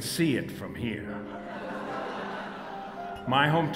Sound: audience Laughter

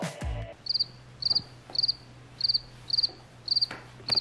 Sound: cricket sound

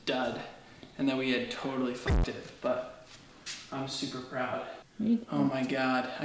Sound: buzz

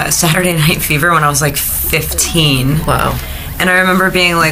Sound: laughing

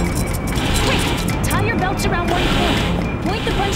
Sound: metal grating

